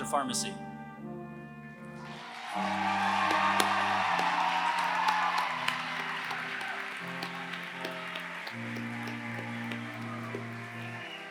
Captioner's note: applause